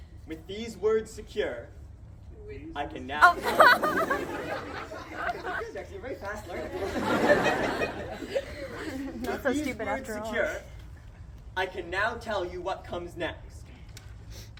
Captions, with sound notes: With these words secure, [audience members continue echoing] [crowd laughs] Goodness, you're very fast learners! [crowd laughs] With these words secure, I can now tell you what will come next.